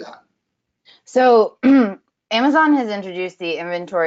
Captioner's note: clears throat